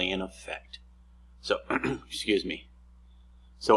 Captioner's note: clears throat